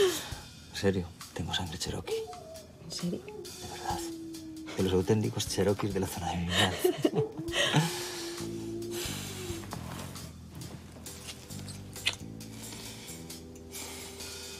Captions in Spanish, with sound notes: En serio, tengo sangre cherokee. ¿En serio? De verdad. De los auténticos cherokee de la zona. (Sonido beso)